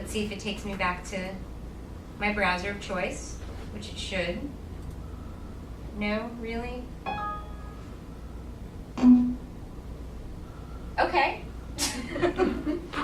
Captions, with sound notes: Let's see if it takes me back to my browser of choice, which it should. No, really? (computer alarm sound) Okay (laughing)